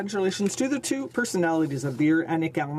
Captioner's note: speaking French